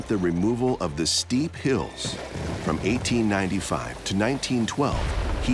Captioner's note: crashing earth